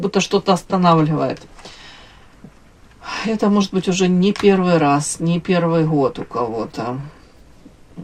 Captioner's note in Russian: вздыхает